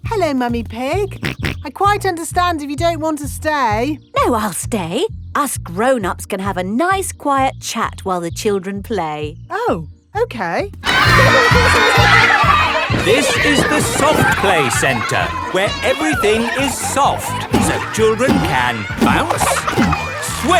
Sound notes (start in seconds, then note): 1.2 snorts; 13.5 loudly over shouting